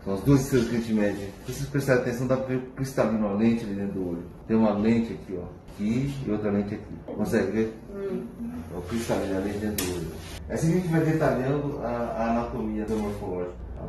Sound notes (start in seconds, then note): 7.9 murmurs in agreement